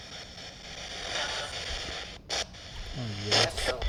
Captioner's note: spirit box voice; spirit box voice